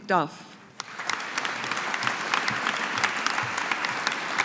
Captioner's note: audience applauding